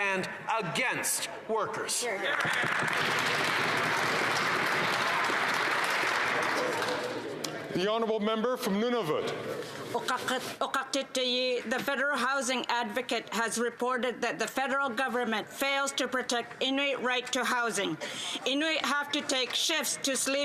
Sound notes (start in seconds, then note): 5.2 some Applause